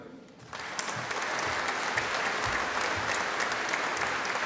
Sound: audience applauding

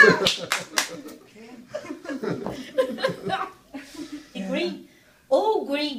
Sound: laughter

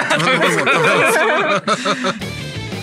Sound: laughs

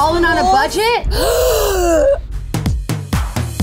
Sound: gasping; upbeat music

